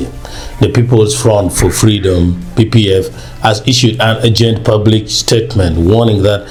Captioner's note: pff